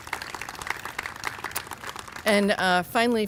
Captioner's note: applause